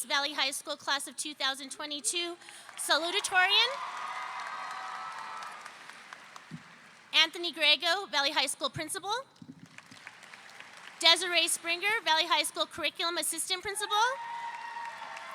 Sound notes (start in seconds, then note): 2.8 audience cheering